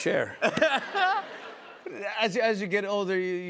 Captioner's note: laughter